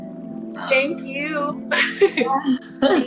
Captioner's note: chuckling